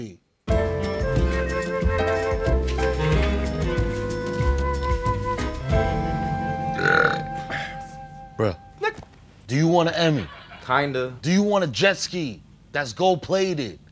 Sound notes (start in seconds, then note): 6.6 belching; 8.4 startled noise